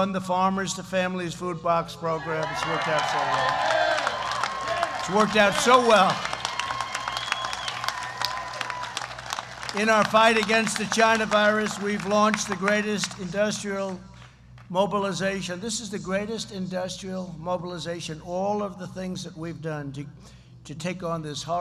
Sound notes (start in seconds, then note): 2.3 applause